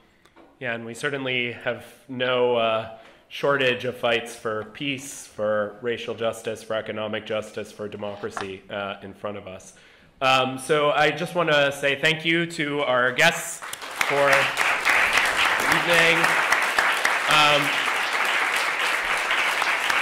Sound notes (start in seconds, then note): 16.2 applause